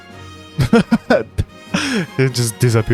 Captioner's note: laugh; gasp